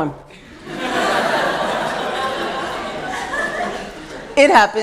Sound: laughter

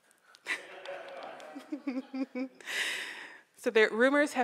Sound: audience laughs

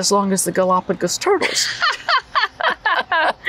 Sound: laughter

